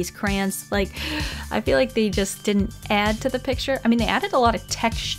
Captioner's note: sigh